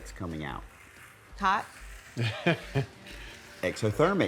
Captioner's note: laughs